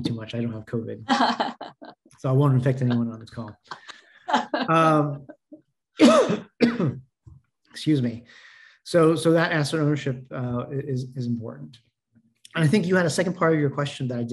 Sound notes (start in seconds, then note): 0.0 coughing; 1.1 laughing; 6.0 coughing